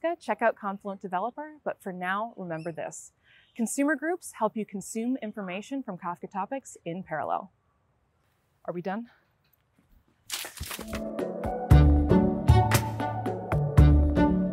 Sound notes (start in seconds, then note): 10.2 leaves crackling; 10.9 upbeat music